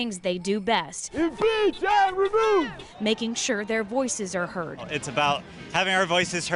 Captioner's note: cheers